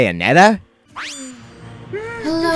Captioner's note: pwing!